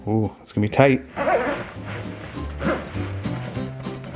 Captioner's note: zipper zips; bouncy music